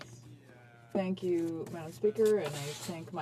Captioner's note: speaking French